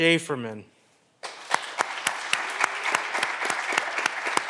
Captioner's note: clapping continues